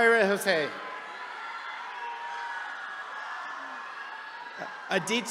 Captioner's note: attendees cheering